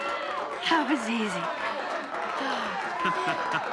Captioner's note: all applauding; sighs in relief; laughing